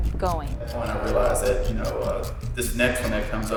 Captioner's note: voiceover